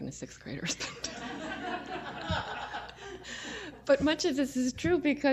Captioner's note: laughter